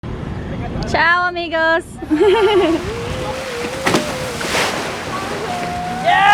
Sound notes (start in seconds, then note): 2.0 laughs; 4.0 water splashing